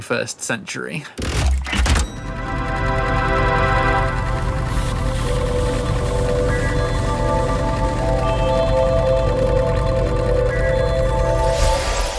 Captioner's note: mechanical sound. Time travel whoosh